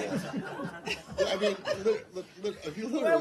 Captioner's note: laughter